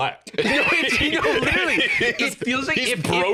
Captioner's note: laughing